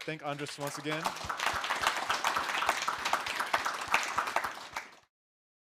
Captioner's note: applause